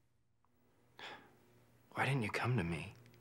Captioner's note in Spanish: suspira